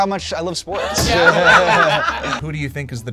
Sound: group laughs

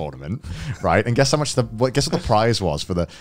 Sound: laughing

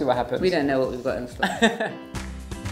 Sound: laughing; lively music

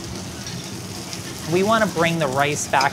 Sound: food sizzling

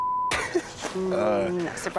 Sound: beep; laughs

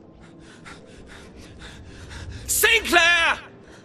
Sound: laboured huffing

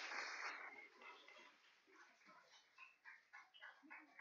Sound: applause

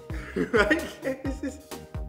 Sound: laughing

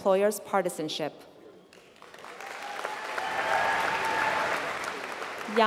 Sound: applause

